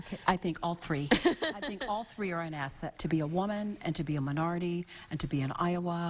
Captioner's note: laughing